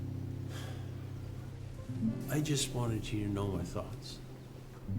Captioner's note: sighs